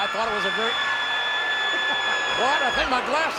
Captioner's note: audience booing; Melina screaming; King laughs